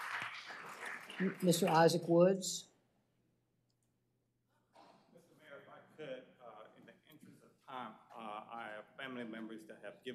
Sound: applause

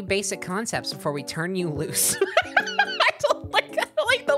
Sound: laughing

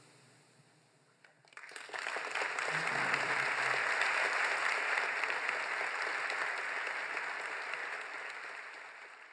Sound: applause

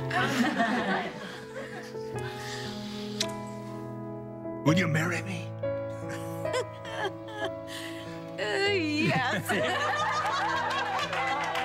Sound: laughter

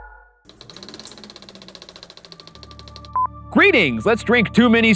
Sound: old projector clicking

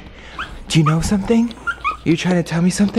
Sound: puppy yips

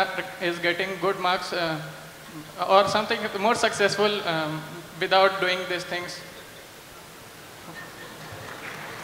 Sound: laughter/Applause

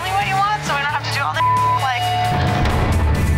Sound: beep

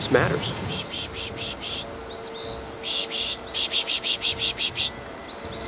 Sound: birds chirping

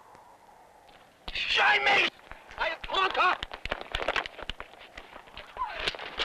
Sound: speaking in foreign language

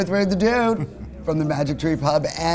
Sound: laughs

